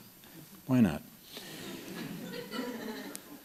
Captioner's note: laughter